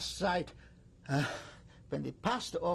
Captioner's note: sighs